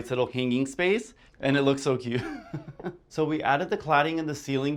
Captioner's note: laughs